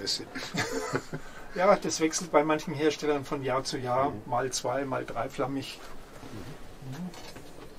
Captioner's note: laughter